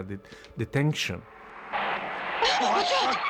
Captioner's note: car tires screeching